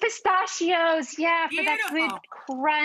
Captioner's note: claps